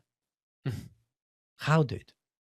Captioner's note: laughs